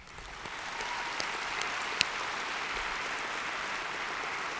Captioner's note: audience applauds